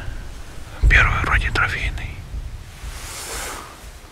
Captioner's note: whispers